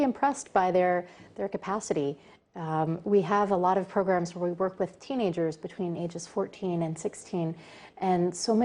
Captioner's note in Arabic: تتحدث الإنجليزية